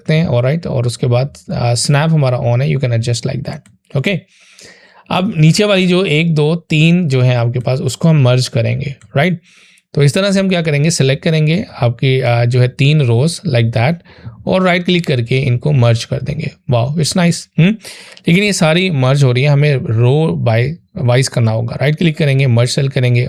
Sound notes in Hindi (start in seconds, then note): 8.8 नाक से की जाने वाली आवाज़